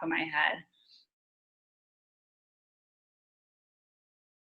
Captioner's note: silence